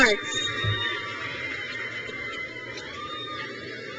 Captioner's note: crowd cheers